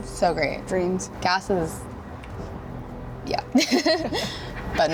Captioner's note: laughs